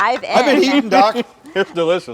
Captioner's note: male guest laughs